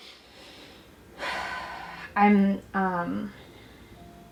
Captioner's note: sighs